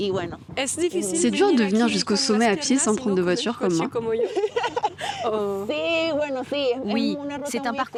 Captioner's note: laughs